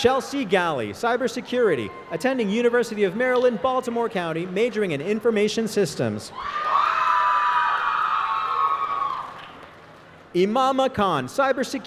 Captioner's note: applause